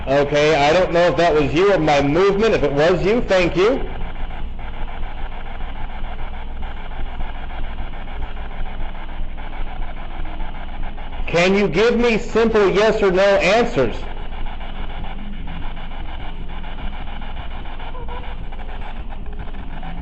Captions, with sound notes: Okay, I don't know if that was you or my movement. If it was you, thank you. (static buzzing) Can you give me simple yes or no answers? (static buzzing)